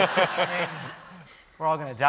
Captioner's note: laughter